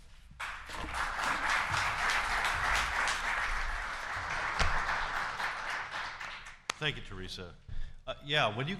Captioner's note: applause